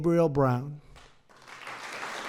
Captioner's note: applause